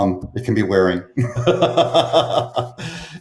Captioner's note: laughs